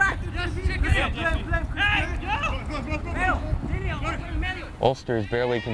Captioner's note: players shouting